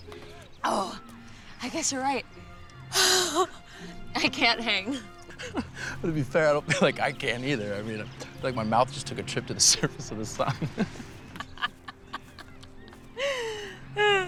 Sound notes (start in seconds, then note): 4.1 laughs; 10.3 both laugh